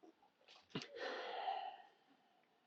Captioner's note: sighs